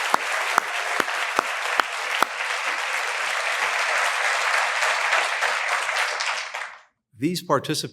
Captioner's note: applause